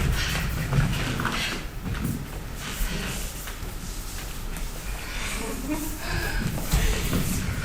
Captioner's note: dancers giggling